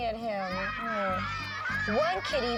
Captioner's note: kids laughing